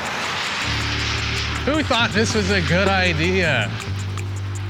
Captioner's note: exasperated